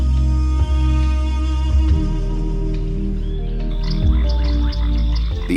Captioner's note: dramatic music; wildlife chirping